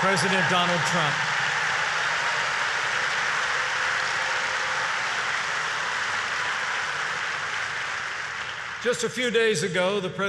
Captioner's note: applause